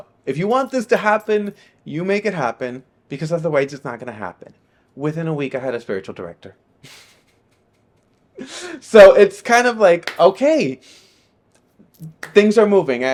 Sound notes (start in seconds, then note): 6.8 laughing